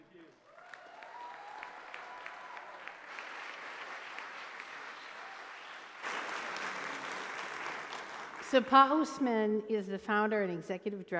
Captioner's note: applause